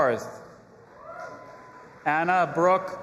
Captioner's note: audience applauding and cheering